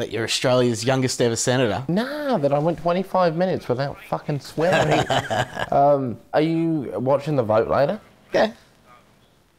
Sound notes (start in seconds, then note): 4.6 man laughing